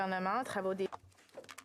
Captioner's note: speaking French